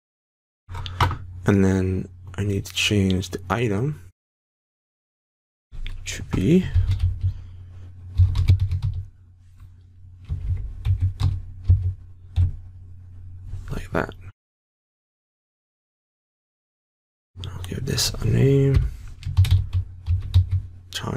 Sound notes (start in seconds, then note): 8.2 typing; 20.0 typing